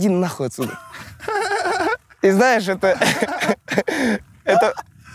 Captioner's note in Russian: смеются